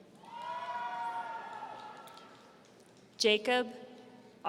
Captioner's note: audience cheering